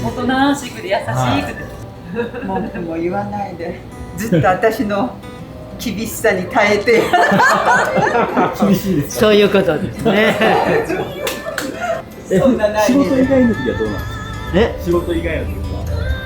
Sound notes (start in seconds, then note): 0.0 laughs; 6.9 laughs